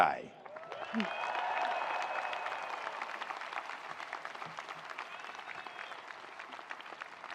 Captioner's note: attendees applauding; attendees cheering